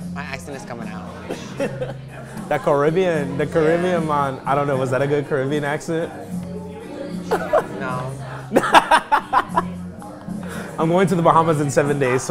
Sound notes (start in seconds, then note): 6.9 laughing